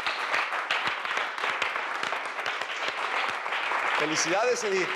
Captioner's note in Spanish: aplausos